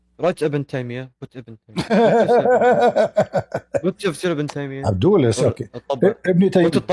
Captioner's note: Ketawa